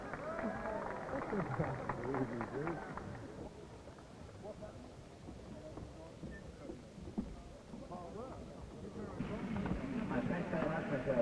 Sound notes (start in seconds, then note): 1.3 audience laughter; 4.3 cheering